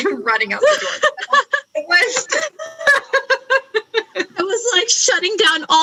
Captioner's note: laughs